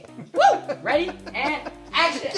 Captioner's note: laughing